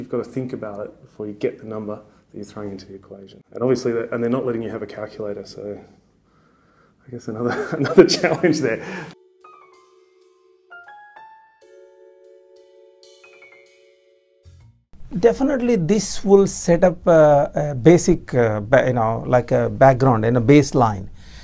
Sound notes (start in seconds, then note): 7.4 laughing; 9.2 smooth piano jazz